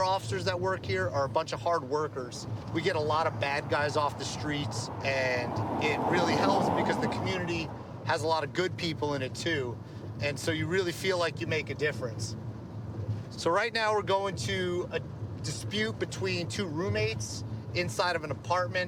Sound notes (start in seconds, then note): none